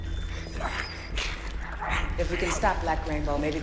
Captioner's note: zombie growling